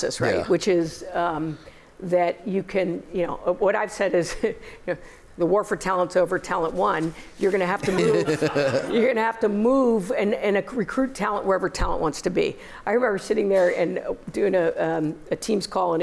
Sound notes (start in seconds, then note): 7.8 laughter